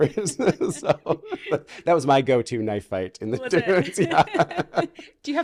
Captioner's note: laughing